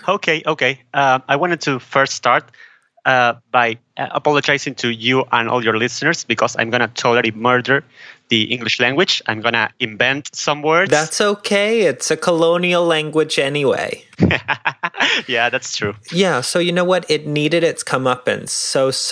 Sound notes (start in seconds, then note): 14.1 laughing